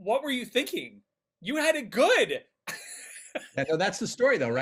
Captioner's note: laughing